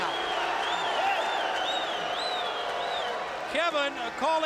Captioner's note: crowd chatter